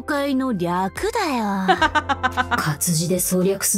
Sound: chuckles

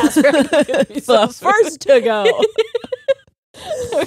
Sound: both laughing

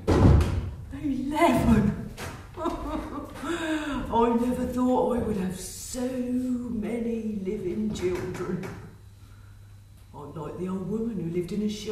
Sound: she chuckles

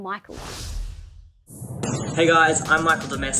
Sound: swooshing

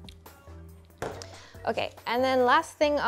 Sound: bowl clunking on counter

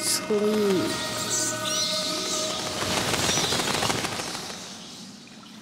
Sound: squeaking

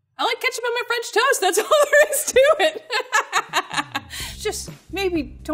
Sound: laughs

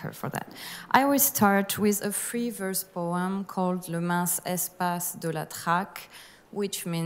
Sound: speaking french

